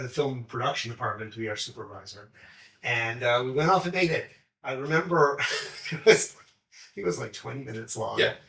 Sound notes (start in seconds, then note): 5.4 chuckles